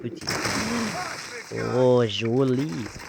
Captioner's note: explosive gunshot sound